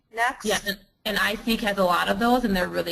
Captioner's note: voiceover